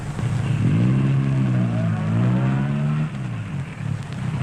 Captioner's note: engine rumbling